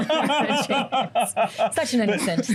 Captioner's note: laughter